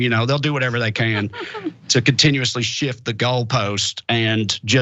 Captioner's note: laugh